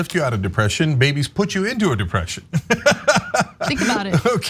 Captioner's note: laugh